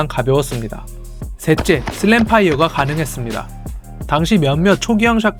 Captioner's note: Slam fire